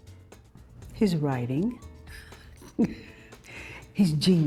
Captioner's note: chuckles